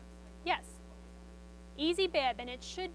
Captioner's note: student speaks faintly